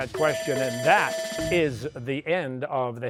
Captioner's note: bell rings